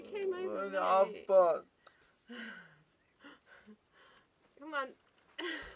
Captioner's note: chuckles